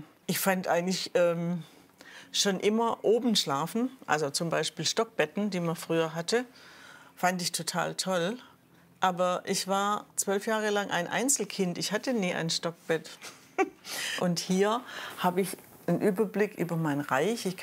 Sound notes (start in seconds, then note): 13.2 giggle